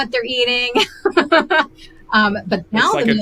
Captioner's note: laughs